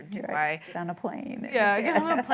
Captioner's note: laughter